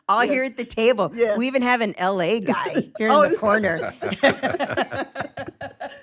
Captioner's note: laughs